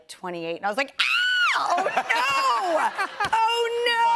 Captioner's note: laughter